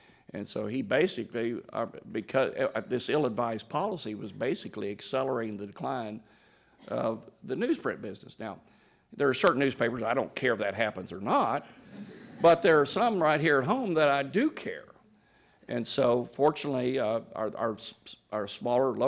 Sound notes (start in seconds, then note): 11.8 laughter